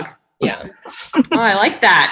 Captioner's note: group laughing